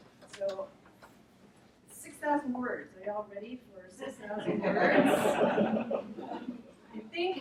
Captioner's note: audience laughs